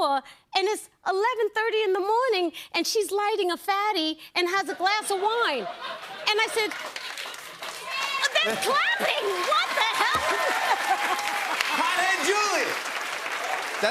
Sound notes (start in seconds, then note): 6.6 scattered applause; 10.3 cheers and applause